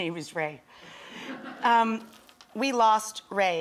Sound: audience laughs

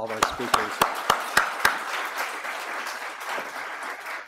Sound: audience applauds

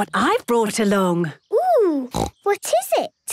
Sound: snorting

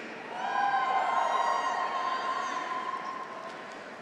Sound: graduates cheer

